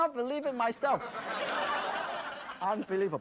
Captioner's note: audience laughs